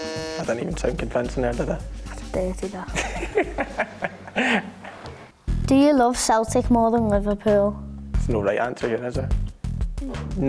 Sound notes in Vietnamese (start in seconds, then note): 2.9 cười lớn